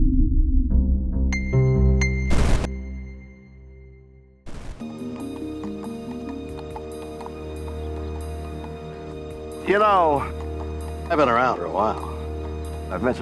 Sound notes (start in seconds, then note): 0.0 eerie music; 4.4 intense music; 4.5 hooves clopping